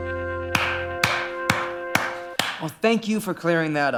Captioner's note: applauds